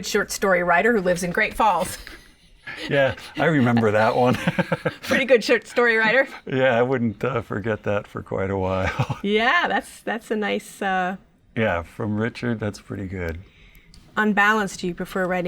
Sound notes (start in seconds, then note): 8.6 laughs